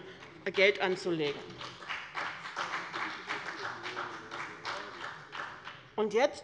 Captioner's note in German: Beifall bei dem BÜNDNIS 90/DIE GRÜNEN und der CDU